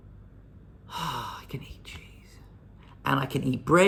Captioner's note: exhales ecstatically